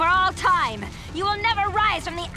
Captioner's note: fire crackling